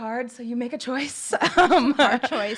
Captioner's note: laughs